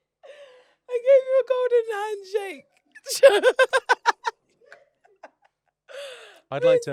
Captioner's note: laughs